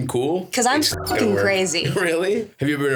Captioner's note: beeps